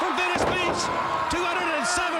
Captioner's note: Ric thudding on ring